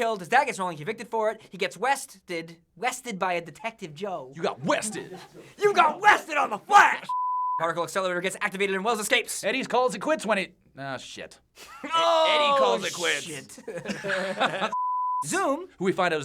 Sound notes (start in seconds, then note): 5.0 crew laughs; 7.1 beep; 13.4 laughter; 14.7 beep